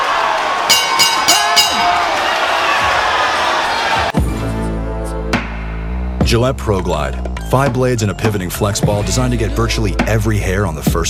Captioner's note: bell rings